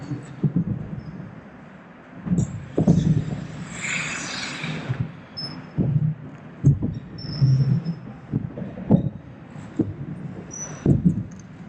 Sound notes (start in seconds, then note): 4.4 skates and roof noise